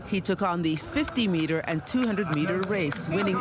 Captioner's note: applause